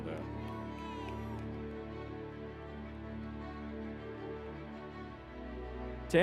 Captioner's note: crowd cheering; inspirational music